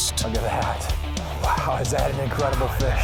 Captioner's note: voiceover